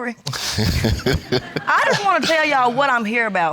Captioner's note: laughs